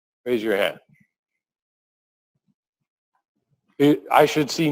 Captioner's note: pause